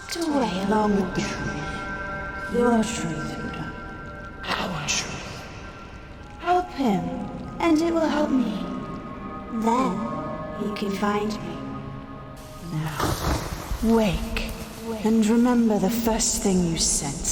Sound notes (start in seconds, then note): none